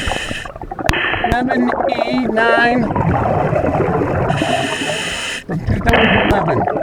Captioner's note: water burbling